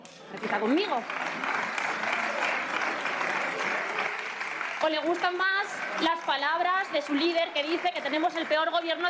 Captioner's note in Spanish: aplausos